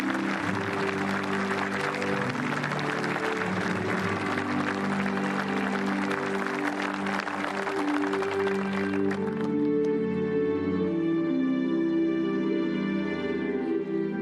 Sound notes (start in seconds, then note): 5.6 applause